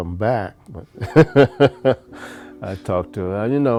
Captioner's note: laughing